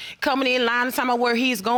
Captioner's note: none